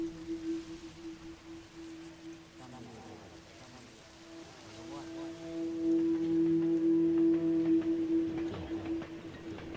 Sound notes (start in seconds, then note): 0.1 somber music; 5.7 train rumbling